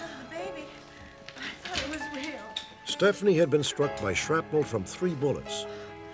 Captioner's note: none